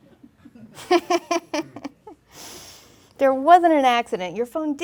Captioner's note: laughing